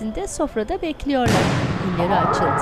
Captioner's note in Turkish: Top patlama sesi